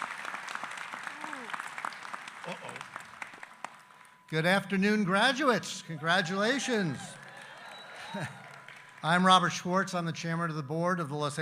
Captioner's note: applause